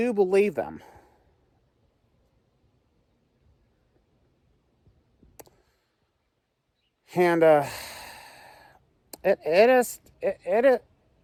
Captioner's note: stammers